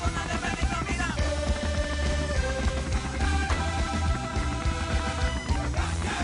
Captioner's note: Sonido del helicóptero